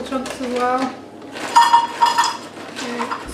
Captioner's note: chopped dates clatter into cup